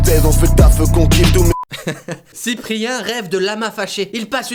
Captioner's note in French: Rire pourrave